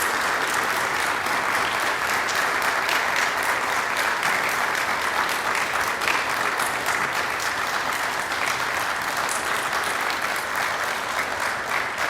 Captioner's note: applause